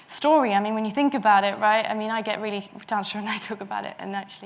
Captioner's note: mutters